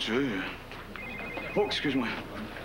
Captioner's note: Le cellulaire sonne